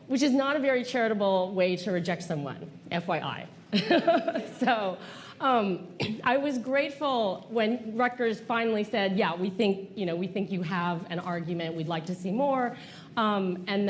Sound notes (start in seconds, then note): 3.7 laughter